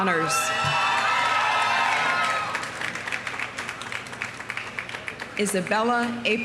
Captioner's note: audience cheering; audience applauding